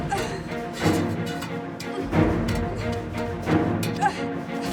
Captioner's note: door bangs